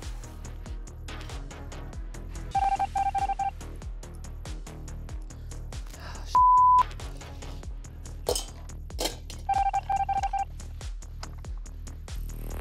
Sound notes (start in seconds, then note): 2.5 machine beeping; 6.3 beep; 9.4 machine beeping